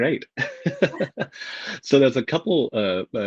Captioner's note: laughs